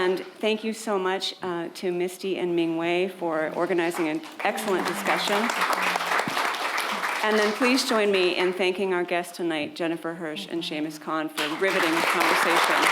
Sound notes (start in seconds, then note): 5.6 attendees applaud; 11.3 attendees clapping